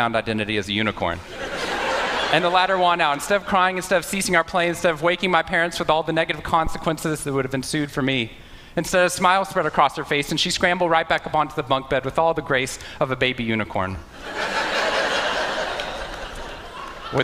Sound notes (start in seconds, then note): 14.2 Laughter; 14.2 笑聲